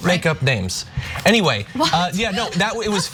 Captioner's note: laugh